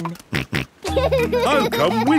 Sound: snorts and laughs

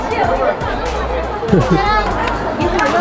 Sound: hahaha

